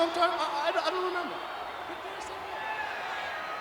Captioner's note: stammers; audience chattering